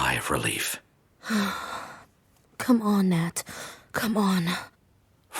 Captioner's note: quietly, to herself